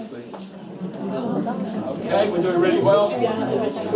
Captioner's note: chatter